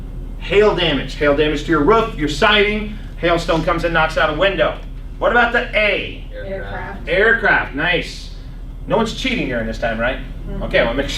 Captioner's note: laughs